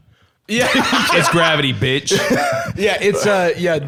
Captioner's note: laughing